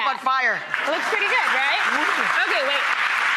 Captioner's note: audience applauds